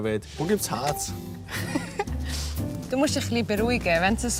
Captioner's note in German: lacht